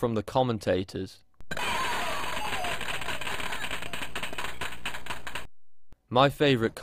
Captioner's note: spectators applauding and cheering